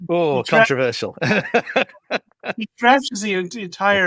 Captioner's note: laughs